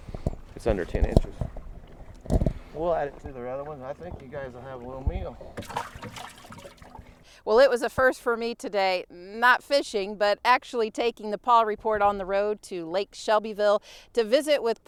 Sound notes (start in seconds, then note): 5.9 splashing sound